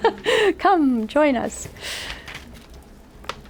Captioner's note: laughs